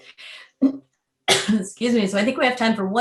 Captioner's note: coughs